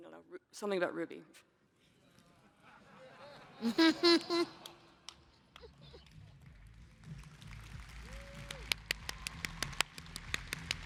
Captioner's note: laughter